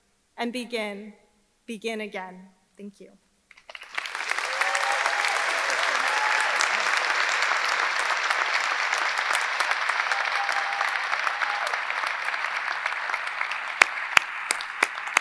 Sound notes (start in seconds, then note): 4.0 audience applauding; 4.0 audience cheering